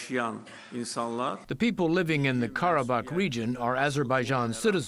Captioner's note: through translator